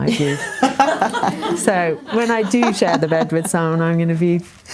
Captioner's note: laughing